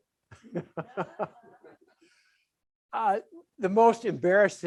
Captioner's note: audience laughs